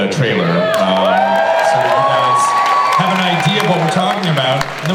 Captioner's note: cheering and applause